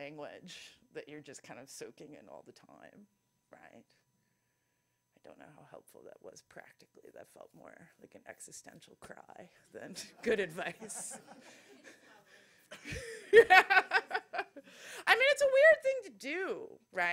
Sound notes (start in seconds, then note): 10.8 laughter